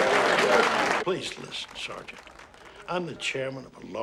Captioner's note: cheering